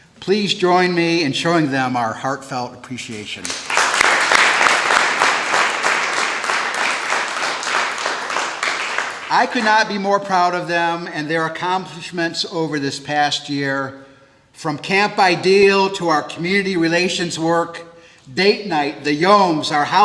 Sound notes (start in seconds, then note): 6.5 applause